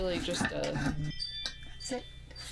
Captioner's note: tinkling